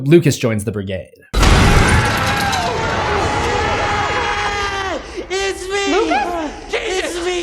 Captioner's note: screaming